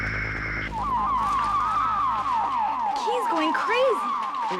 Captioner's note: crystal warbling